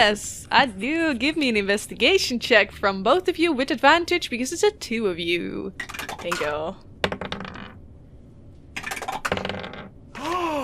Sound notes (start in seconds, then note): 5.8 good dice tower clacks; 6.5 dice thunks; 6.5 dice tower clacks continue; 8.7 dice thunks continue; 10.1 gasps